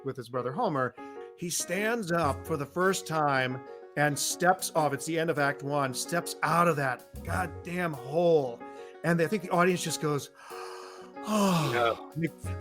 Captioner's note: sigh